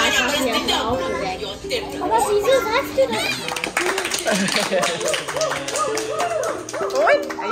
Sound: claps; speaking German; laugh

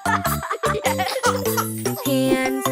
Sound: children laughing

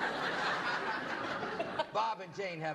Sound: laughter

